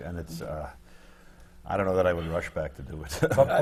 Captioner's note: laughs